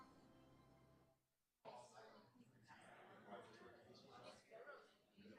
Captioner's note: chatter